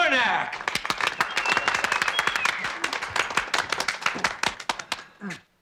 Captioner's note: applause and whistling